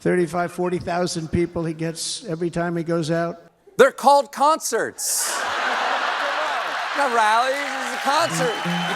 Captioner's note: laughter